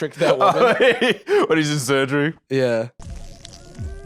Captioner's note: laughs